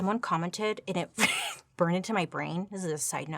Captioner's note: chuckles